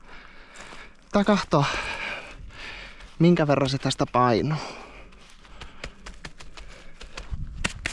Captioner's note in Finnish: huokaus